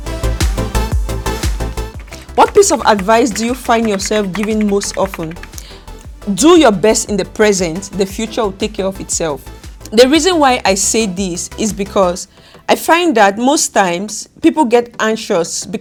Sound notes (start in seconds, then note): 0.2 upbeat music; 1.5 keys typing